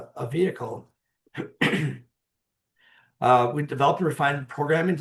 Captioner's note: clearing throat